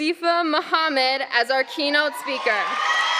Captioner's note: applause